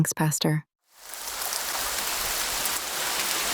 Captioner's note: water Running